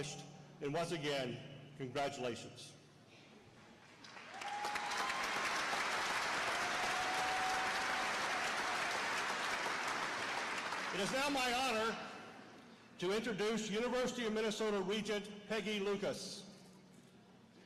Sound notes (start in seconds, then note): 3.9 applause